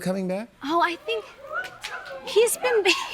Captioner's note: chuckles